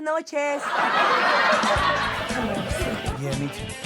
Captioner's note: audience laughs